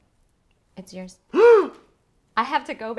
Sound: gasp

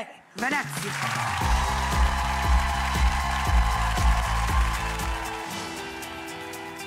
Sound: upbeat music; audience cheers and applauds

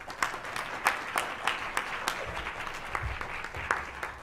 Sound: applause

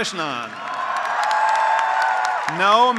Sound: graduates applauding; graduates cheering

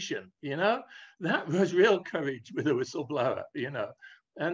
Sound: laughs

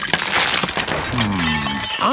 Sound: cracking

